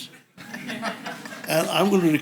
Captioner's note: audience laughs